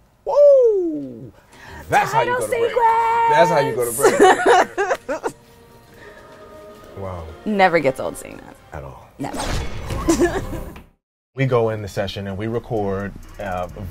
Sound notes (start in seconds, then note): 3.8 laughs; 10.0 laughs